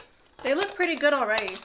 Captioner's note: mixer stirring